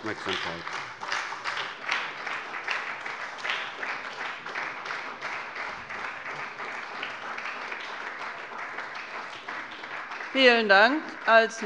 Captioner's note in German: Beifall bei der SPD